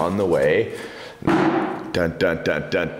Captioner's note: box thuds